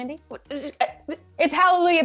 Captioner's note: Melinda stutters